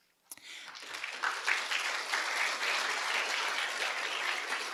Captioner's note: audience clapping